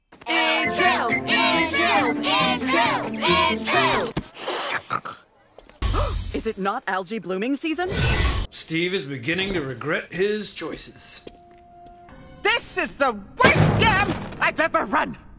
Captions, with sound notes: Entrails! Entrails! Entrails! Entrails! *SNORT* *gasp* Is it not algae blooming season? Steve is beginning to regret his choices. This is the WORST SCAM I've ever run!